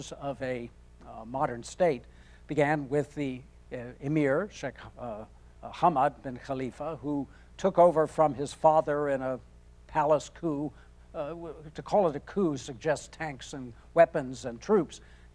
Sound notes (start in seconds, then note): none